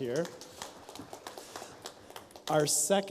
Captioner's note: light applause